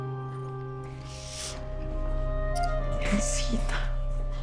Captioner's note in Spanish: Solloza